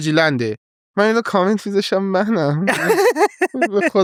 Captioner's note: laughs